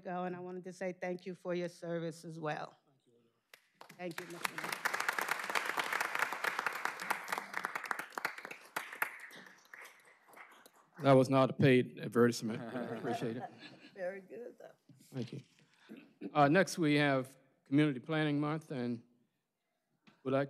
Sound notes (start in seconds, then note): 8.4 applause